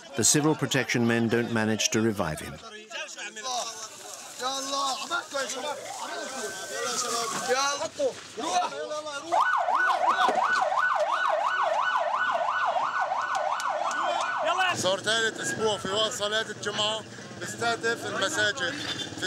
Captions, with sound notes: The civil protection men don't manage to revive him. [Arabic spoken audio] For three weeks now, they've bombed Friday prayers at the mosque.